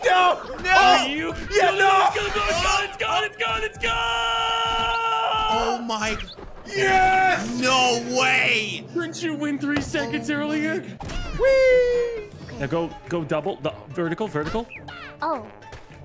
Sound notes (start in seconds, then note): 4.1 chilled screaming